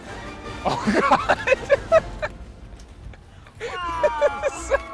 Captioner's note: laughs